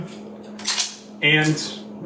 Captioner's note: magazine reloading